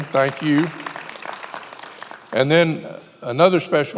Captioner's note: many applauding